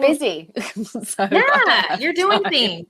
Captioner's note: Jameela laughing